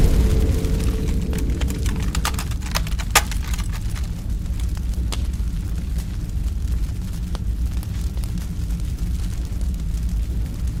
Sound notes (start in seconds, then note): 2.4 fire sizzling